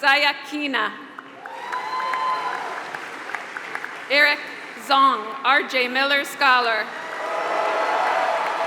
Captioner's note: applause; applause